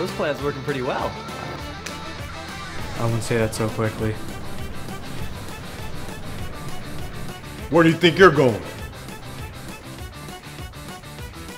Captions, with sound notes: Ha! This plan's working pretty well [Loud Punch] I wouldn't say that so quickly Where do you think you're going?